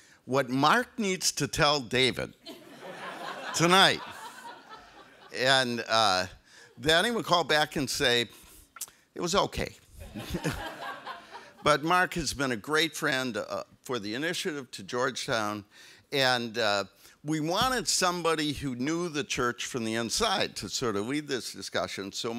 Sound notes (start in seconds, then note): 10.0 audience laughs